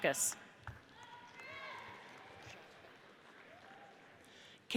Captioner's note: audience cheers